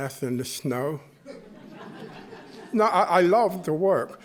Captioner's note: chuckling